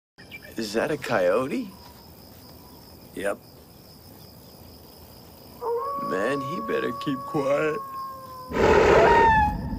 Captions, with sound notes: -Is that a coyote? -Yep. *coyote howls* -Man, he better keep quiet. *Graboid roars*